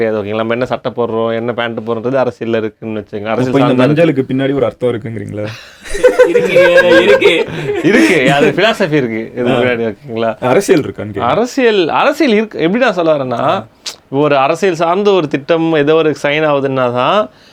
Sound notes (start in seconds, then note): 5.8 group laughs